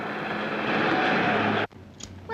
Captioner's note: car rumbling